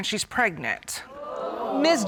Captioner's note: audience exclaims